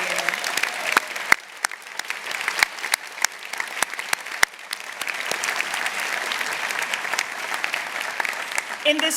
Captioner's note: applause